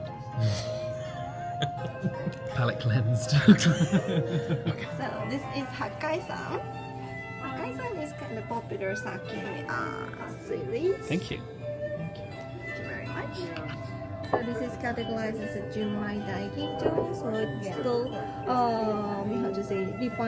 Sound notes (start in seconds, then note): 1.0 laughs; 6.7 speaks Japanese; 16.3 speaks Japanese